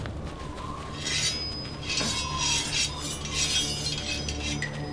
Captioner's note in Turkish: Kılıç çekme sesleri